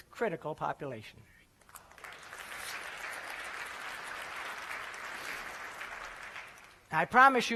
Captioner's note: applause